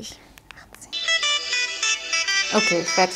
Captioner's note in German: Lauter Klingelton